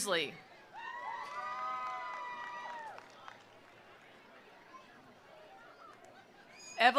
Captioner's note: attendees cheering; attendees applauding